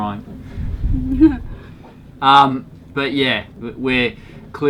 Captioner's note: laughter